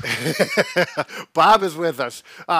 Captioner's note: both laughing